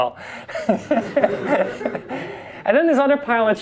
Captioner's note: class and instructor laugh